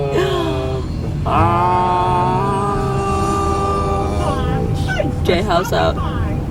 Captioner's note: screaming in unison